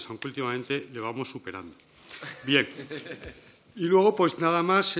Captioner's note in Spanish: Risas